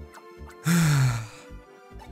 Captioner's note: sigh